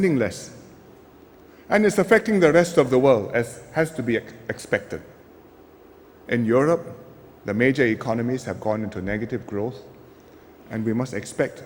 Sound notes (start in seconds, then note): none